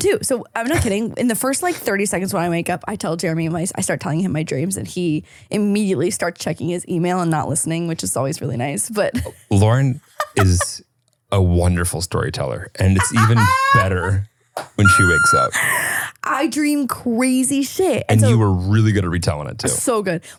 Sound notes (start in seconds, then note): 10.0 laughing